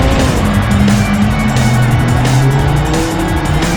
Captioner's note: engine revs; tires squealing